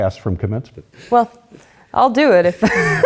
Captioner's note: laughter